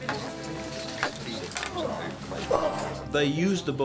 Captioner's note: grunts, Groans